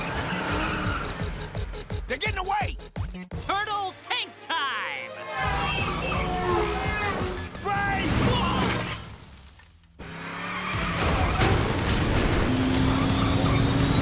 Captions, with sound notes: - They're gettin' away! - Turtle Tank time! [exciting music] - Brake! - [shouts] [glass shatters] [engines roaring]